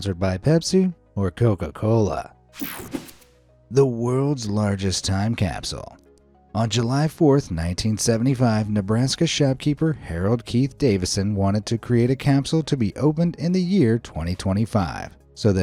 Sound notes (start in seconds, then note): 2.6 air whooshing